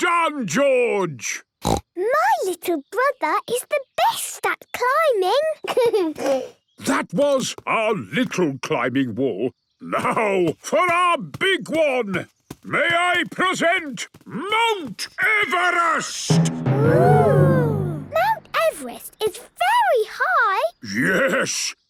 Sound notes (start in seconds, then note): 1.6 snorts; 5.6 giggles